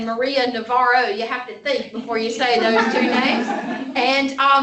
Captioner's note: laughter